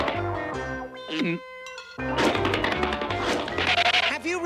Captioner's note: gulps